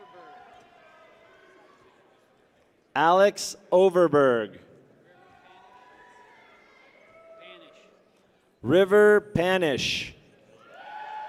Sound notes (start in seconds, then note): 0.0 people cheer; 5.1 people cheer; 10.5 people cheer